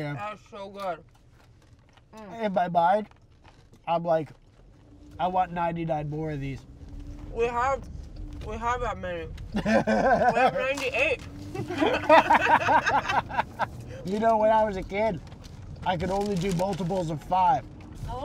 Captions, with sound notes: That's so good. In my mind, I'm like, I want 99 more of these. We have that many. We have 98. [LAUGHS] You know, when I was a kid, I could only do multiples of 5.